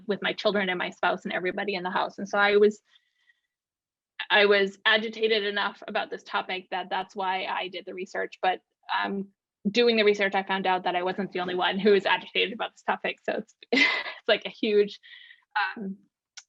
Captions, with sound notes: with my children and my spouse and everybody in the house. And so I was agitated enough about this topic that that's why I did the research, but doing the research I found out that I wasn't the only one who was agitated about this topic. So (chuckles) it's like a huge...